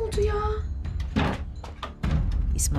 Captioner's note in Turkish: Kapı açılma sesi